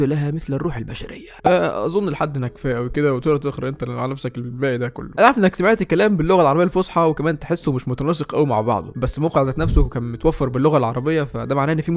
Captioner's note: speaking in Arabic about the literal translation on this site